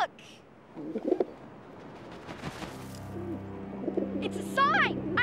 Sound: doves cooing

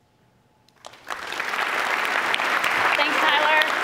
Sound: applause

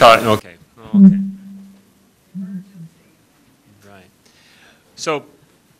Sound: background conversation

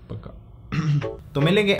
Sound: coughs

